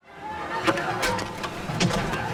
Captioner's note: clattering